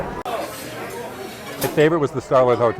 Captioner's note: people chattering faintly